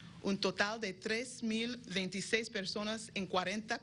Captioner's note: spanish language speaking